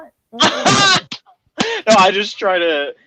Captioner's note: laughing